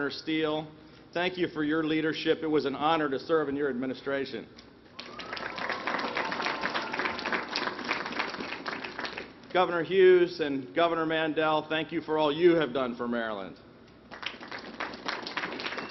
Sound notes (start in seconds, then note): 14.0 applause